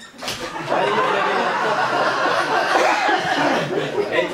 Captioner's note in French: rires public